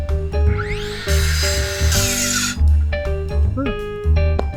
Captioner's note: saw whirs